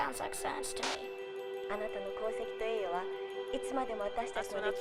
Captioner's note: woman #1 speaking japanese; woman #2 speaking japanese